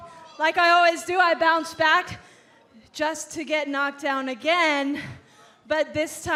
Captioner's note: none